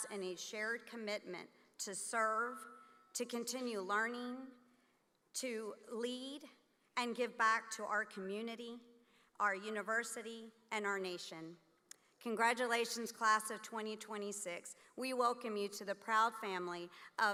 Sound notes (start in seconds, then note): none